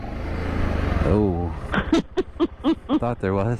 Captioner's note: laughing at Travis